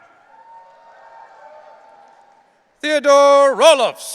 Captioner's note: audience cheering